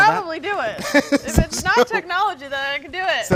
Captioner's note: laughs